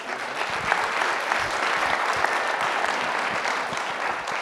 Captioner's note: audience applauding